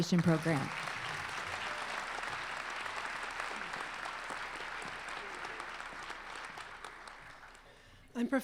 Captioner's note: applause